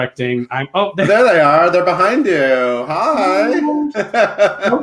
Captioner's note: laughs